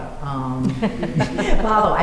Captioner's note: laughter